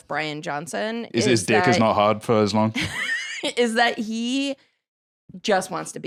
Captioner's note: laughs